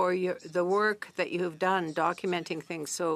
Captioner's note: speaking in French